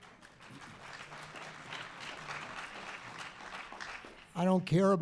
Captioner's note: audience applause